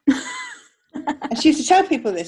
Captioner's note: laughs